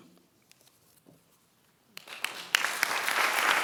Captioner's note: applause